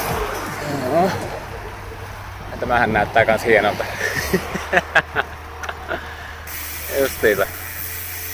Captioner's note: laughter